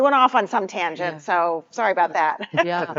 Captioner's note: chuckles